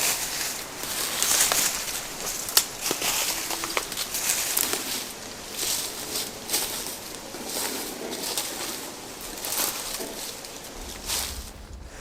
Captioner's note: walking noises